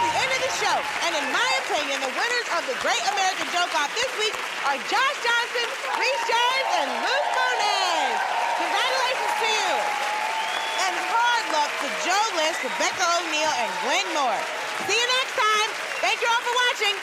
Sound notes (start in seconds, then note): 9.1 cheering and applause; 10.3 whistling